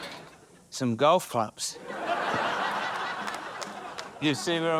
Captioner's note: audience laughs